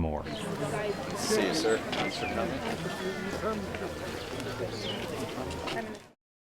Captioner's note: crowd noises